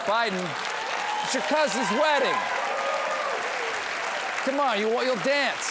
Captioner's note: applause